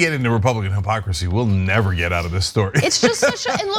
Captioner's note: laugh